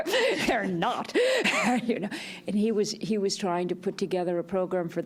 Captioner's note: chuckles